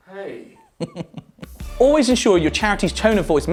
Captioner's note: chuckles